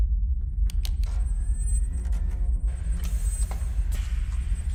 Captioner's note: machine movements